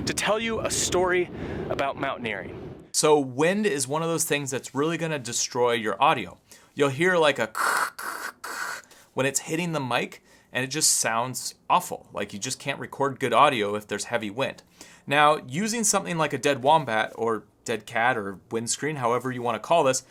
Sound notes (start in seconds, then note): 7.5 screeches